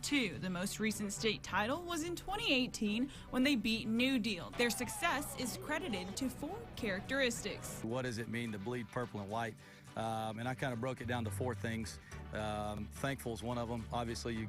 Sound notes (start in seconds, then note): 4.5 people cheering